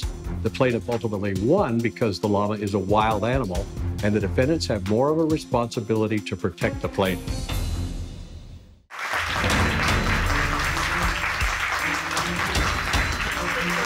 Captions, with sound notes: The plaintiff ultimately won because the llama is a wild animal and the defendant's have more of a responsibility to protect the plaintiff. -[dramatic music] -[audience applauding]